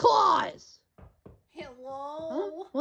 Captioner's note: knocking